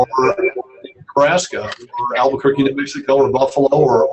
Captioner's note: murmurs